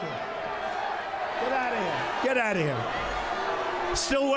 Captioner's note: cheers